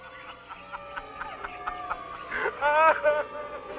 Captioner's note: laughing